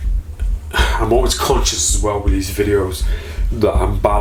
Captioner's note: sighing